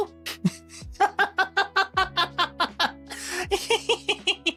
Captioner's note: laughs